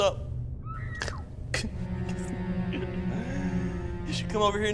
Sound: woman screaming

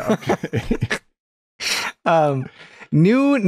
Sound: laughter

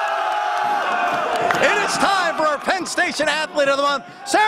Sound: cheers

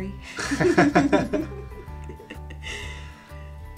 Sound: both laughing

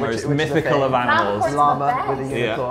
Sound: none

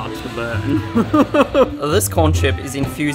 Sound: laughs

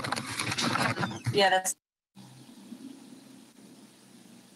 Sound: microphone shuffles

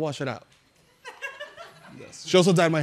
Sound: chuckling

